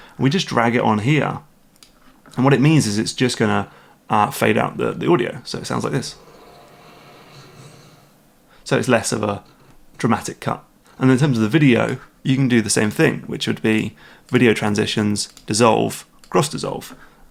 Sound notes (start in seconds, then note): 5.7 game audio plays, fades out